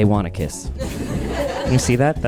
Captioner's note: audience chuckling and laughing